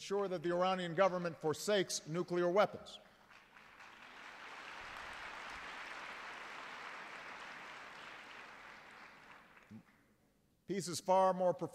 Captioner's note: applause